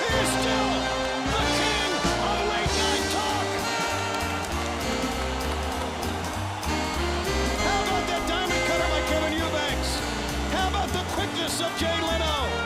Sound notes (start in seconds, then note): 2.5 crowd cheering; 5.7 bell ringing; 8.4 crowd cheering